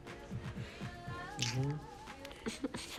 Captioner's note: both giggling